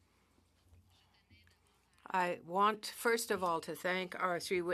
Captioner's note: speaking French